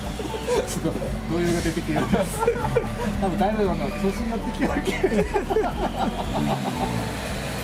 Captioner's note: laughs